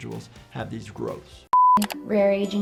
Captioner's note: mouse clicking; tone beeps